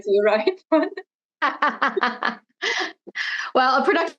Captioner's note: laughs